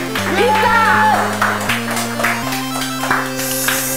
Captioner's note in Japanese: 拍手